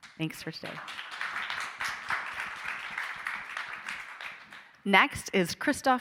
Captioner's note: audience applauding